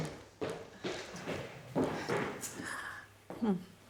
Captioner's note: footsteps